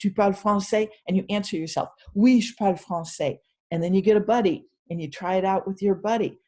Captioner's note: french words